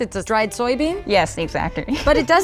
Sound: laughs

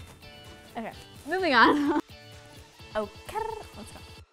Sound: laughs

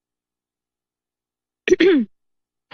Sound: clears throat

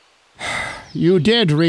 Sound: sighs

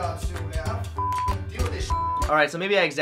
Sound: beep

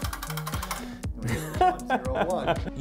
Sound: Derek Muller laughs daintily and with poise

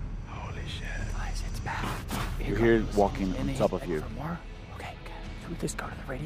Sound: footsteps

